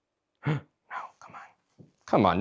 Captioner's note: whispers